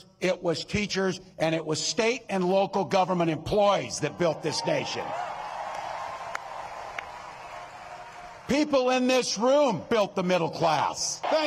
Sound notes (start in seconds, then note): 7.1 cheering; 7.5 applause